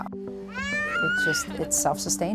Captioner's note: child squealing